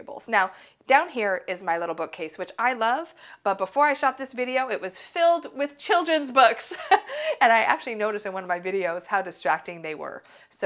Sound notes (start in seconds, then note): 6.7 laughs